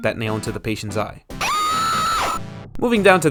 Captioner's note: the patient screaming in pain after being poked in the eye with a nail